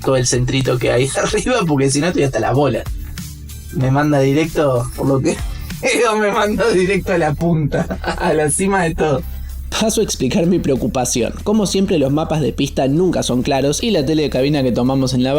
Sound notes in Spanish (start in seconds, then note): 7.6 risas